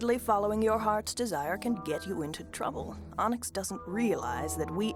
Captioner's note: none